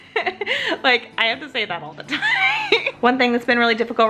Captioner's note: laughs